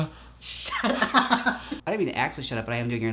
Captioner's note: laughs